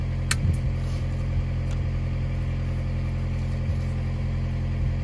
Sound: wire cutters snipping

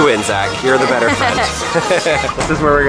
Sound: laughs

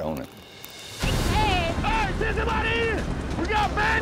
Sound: yelling

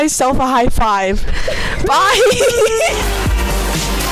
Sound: laughing; music under

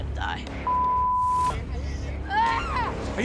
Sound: beep

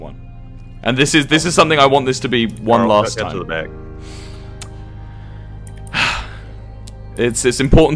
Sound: sighs

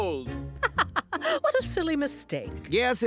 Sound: laughs

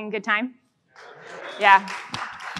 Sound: audience applauds

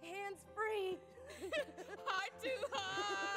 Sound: laughs

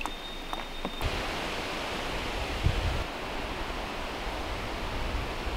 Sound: tree leaves rustling

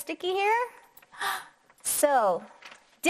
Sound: gasping

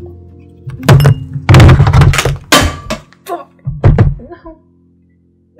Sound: drops ice cube

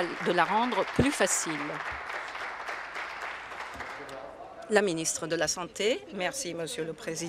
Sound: applause

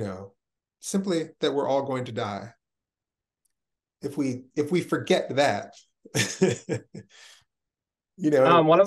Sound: chuckles

